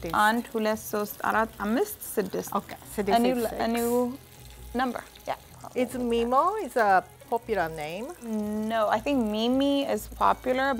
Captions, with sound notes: - Okay, (Amharic) is six. - A new number. - Is Mimo a popular name? - No, I think Mimi is popular,